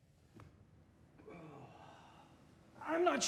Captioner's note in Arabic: تتنهد